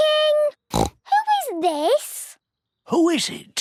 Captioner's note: snorts